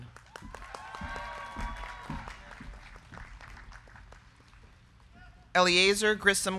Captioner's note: crowd clapping; crowd cheering